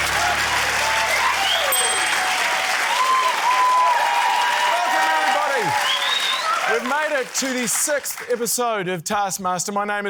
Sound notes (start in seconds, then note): 0.2 cheering, applause; 1.6 ding!